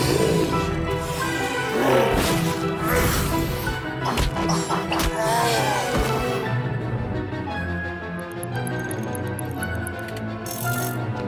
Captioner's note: growling